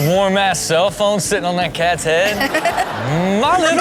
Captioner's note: Chanel laughs